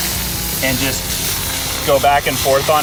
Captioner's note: steam hisses